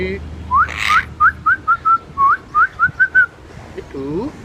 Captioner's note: whistling